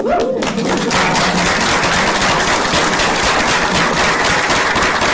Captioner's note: applause